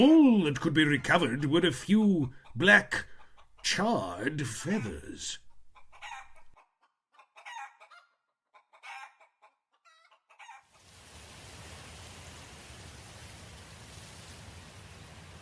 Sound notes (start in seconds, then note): 8.4 chickens clucking; 13.3 low wind